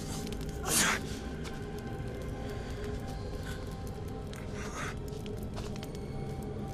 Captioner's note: eerie music; Odysseus grunts